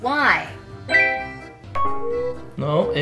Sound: phone beeping

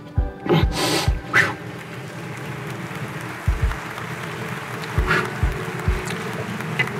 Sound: sobbing; audience clapping

